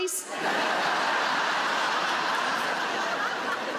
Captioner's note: audience laughs